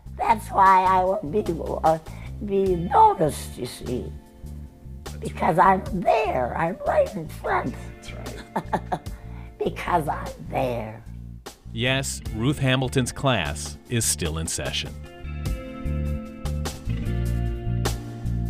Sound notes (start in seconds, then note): 8.7 laughs; 15.7 gentle music